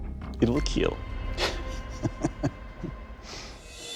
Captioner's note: chuckles